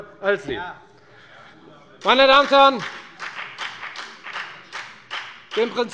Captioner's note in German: Beifall bei der FDP